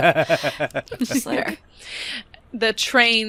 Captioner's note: laughter